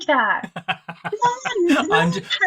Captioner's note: laughs